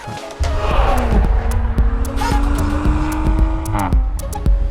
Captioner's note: car engine racing